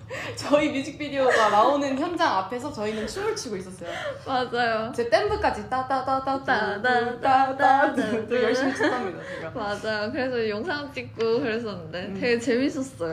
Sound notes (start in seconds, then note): 5.6 humming interlude